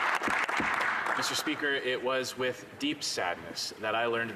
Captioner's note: applause